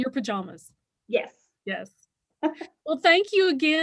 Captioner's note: laughs